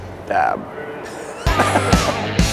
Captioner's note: laughs